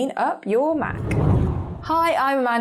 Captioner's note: air whooshing